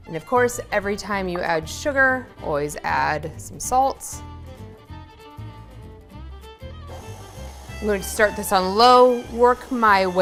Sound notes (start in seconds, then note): 4.4 upbeat music; 6.9 stand mixer whirring